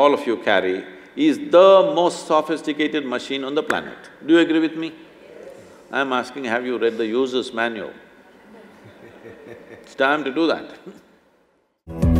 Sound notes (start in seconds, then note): 8.2 laughs; 8.4 laughter; 11.8 instrumental Music